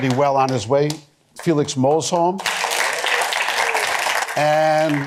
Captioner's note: applause